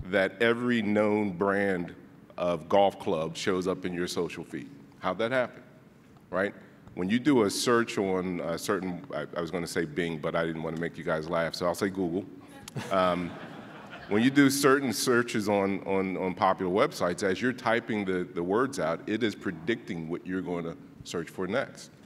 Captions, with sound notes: that every known brand of golf clubs shows up in your social feed. How'd that happen? When you do a search on a certain, I was gonna say Bing but I didn't wanna make you guys laugh so I'll say Google. (laughing) When you do certain searches on popular websites, as you're typing the words out it is predicting what you're gonna search for next.